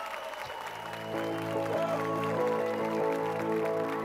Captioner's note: applause and cheers